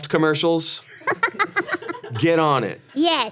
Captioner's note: Ironmouse laughs